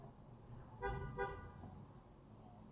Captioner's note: car ahead honks